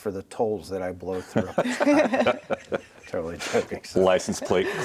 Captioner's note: everyone laughs